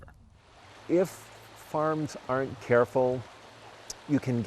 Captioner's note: water rushes